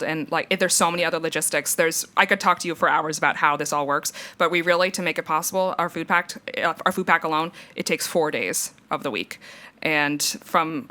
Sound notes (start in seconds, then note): none